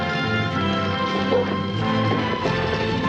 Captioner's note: jack barks